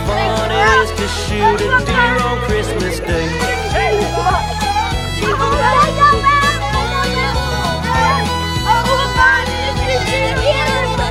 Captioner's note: falcon screeching